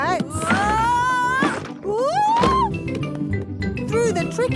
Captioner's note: wood teetering